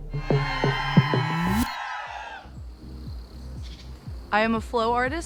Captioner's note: all cheering